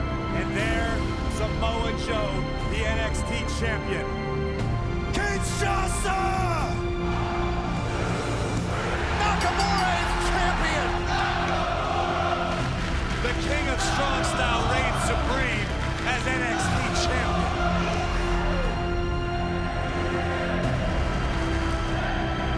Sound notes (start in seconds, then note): 9.2 bell ringing; 12.3 fans chanting